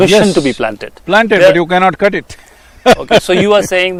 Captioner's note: laughs